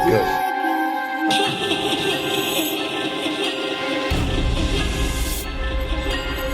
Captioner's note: creepy music; disembodied laughter